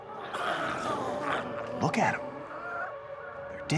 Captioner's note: glowzies growling